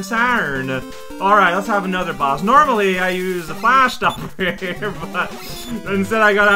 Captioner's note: starts laughing